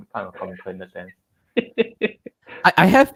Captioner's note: laughter